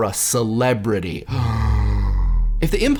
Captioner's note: gasping